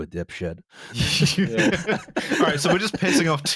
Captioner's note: laughter